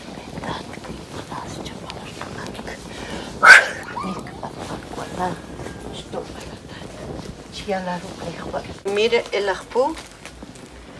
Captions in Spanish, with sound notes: (hablando en idioma K'iche') (soplo fuerte) (hablando en idioma K'iche') mire, al Ajpu